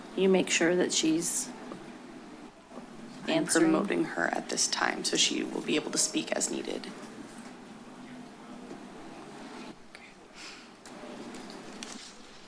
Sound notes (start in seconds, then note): 9.7 pause